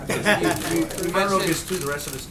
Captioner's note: laughter